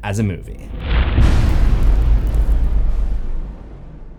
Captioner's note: impact